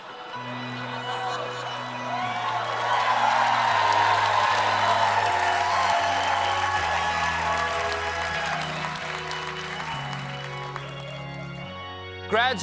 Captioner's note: cheers and applause; organ music